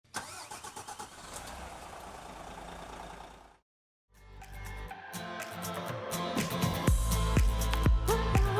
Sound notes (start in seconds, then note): 0.2 engine revving; 4.2 upbeat music